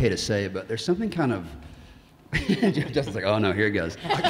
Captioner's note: laughs; audience laughing